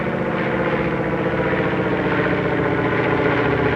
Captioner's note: plane taking off